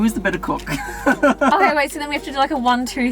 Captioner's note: laughs